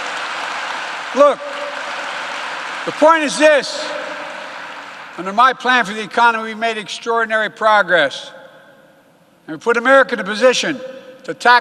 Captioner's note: applause